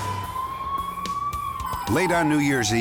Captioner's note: siren wailing